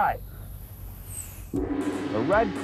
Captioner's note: gong